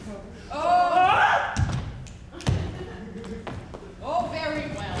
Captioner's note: Grumio cries out